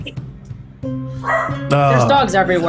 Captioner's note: dog barks